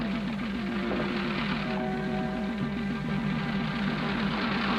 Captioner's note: jeep engines running